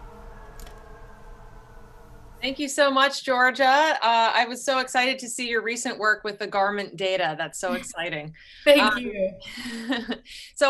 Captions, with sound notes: - Thank you so much, Giorgia. I was so excited to see your recent work with the garment data. That's so exciting. (chuckles) - Thank you.